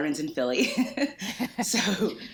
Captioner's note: laughs